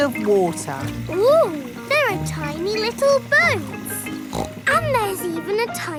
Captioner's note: snorts